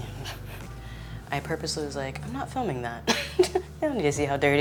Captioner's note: laughs